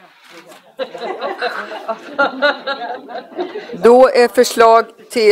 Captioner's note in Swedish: Skratt